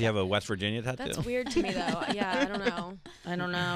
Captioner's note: laughing